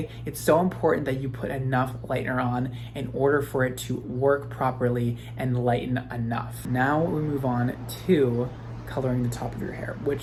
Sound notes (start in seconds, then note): none